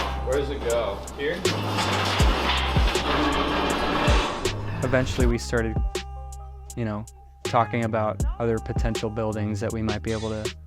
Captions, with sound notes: Where does it go? Here? [LOUD SCRAPING] Eventually we started... you know, talking about other potential buildings that we might be able to...